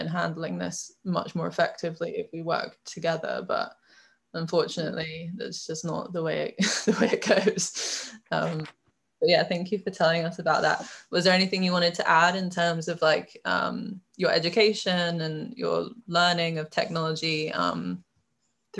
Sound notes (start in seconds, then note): 7.1 chuckles